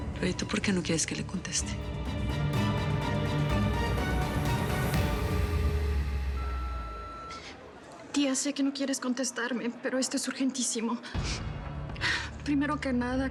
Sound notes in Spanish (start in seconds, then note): 6.0 bip del contestador